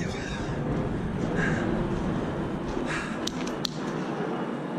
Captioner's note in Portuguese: Avião passando